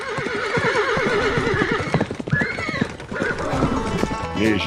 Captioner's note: horse neighing and galloping